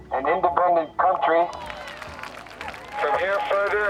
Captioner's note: crowd cheering